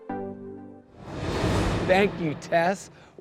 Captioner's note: upbeat music continues; graphics whooshing